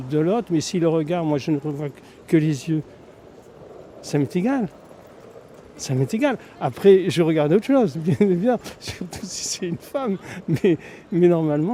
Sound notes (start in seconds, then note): 8.5 laughs